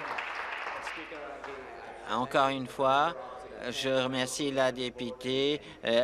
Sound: applause

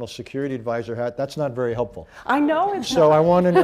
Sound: laughter

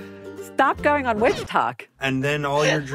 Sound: record scratch, music stops

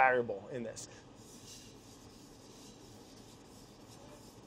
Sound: knife scraping

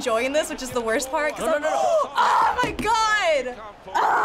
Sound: gasping; groaning

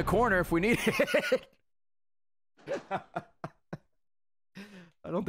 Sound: laughs

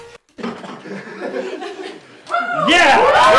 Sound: laughter; cheering and applause

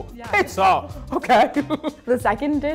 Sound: laughing

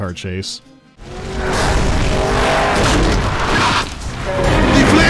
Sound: roaring on the engine and screeching of tyres

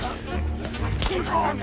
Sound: grunting

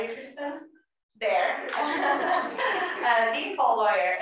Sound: laugh

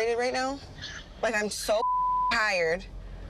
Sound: beep

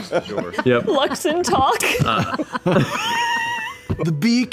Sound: laughing

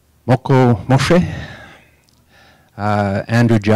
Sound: native tongue spoken

